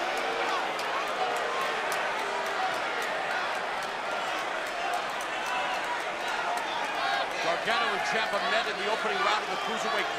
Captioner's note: crowd cheering